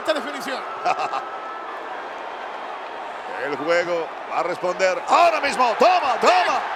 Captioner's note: laugh